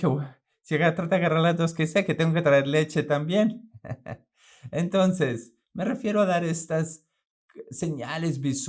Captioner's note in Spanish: laugh